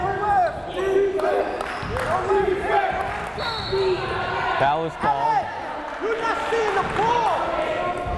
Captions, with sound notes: (crowd chanting defense) Foul is called.